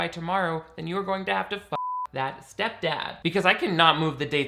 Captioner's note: beep